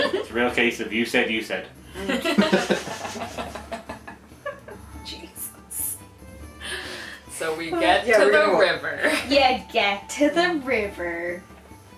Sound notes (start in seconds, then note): 2.0 laughter